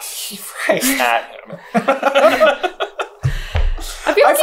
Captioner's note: laughs